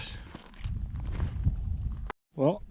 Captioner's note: gravel crunching